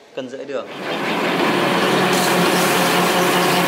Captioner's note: machine sounds